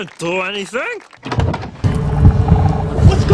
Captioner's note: door opens; dungeon noises